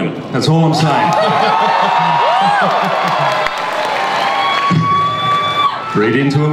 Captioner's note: audience laughs and cheers